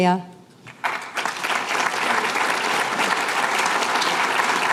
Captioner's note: applause